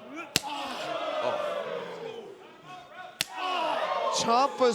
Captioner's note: crowd exclaiming